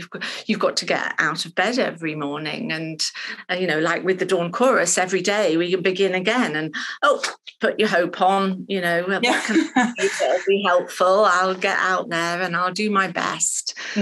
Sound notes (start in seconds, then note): 9.2 laughing